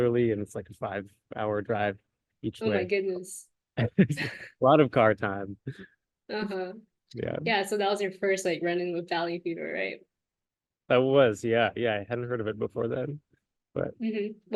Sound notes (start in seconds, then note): 3.8 laughs